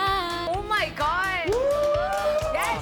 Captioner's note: whooooa